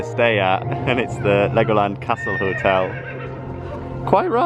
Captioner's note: horse neighs